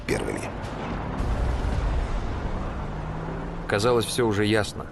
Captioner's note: sounds of tanks